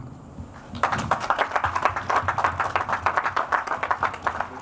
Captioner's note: audience applauds